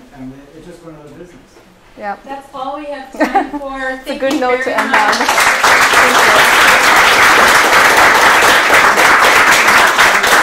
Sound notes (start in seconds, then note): 4.6 applause